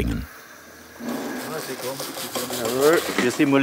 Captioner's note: working noises